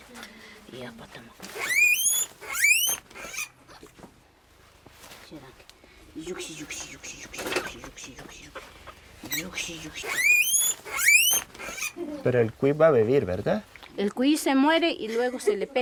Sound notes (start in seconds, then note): 1.5 guinea pig squealing; 6.5 speaking foreign language; 9.2 guinea pig squealing; 12.1 speaking foreign language